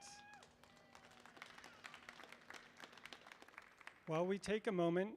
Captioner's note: audience applauding